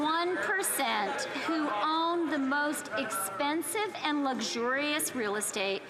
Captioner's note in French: voix de l'interprète